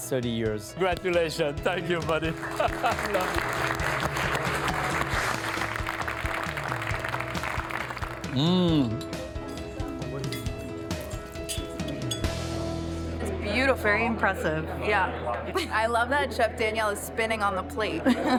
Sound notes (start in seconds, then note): 1.7 all applauding